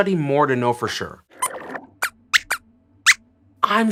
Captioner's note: squeaks squeaks